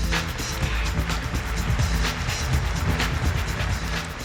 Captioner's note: upbeat music; applause